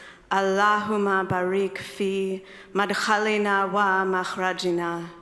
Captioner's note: speaking in foreign language